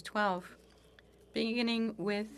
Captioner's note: speaking French